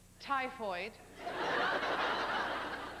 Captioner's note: laughter